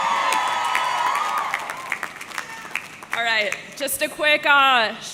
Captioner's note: audience cheering; audience clapping